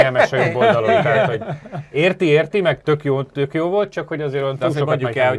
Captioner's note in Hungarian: nevetés